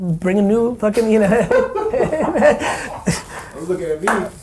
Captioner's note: laughing